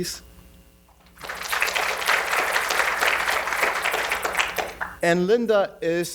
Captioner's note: audience applauding